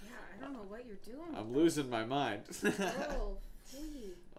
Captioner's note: laughs